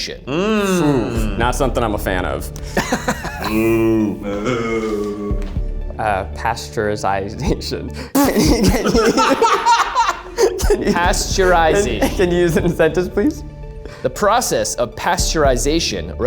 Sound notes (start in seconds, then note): 5.5 suspenseful music; 8.0 spits; 8.1 group laughs